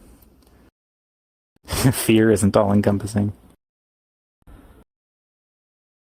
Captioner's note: light laughing exhale